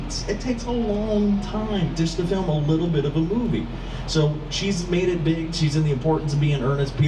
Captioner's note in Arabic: none